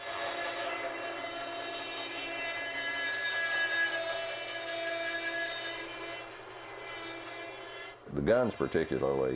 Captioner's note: band saw whirring